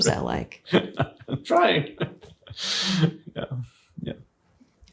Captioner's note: laughs